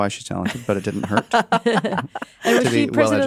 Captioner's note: laugh